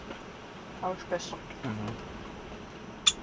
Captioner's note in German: auf Schweizerdeutsch